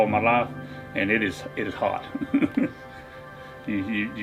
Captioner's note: chuckles